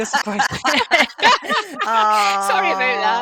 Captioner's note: laughter